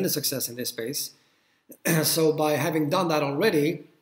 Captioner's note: cough